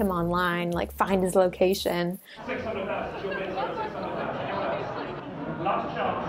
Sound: audience chattering

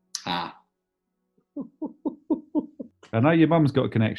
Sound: chortling

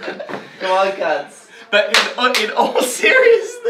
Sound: clap

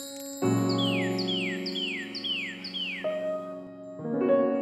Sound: bird chirping

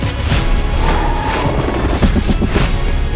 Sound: blades thumping; tires squeal

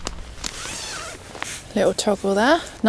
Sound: crunching leaves; zipper

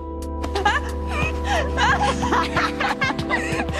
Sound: laughing

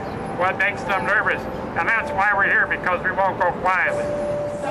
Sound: chanting

